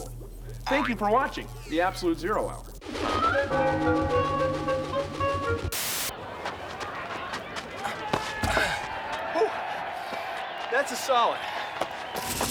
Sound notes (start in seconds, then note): 6.1 crowd shouting, cheering